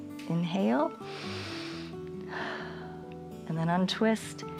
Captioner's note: inhales and exhales